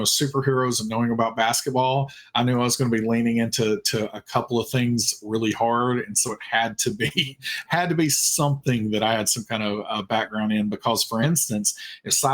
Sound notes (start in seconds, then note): 6.8 chuckling